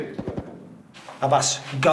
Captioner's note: gun fires